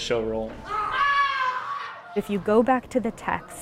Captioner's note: screams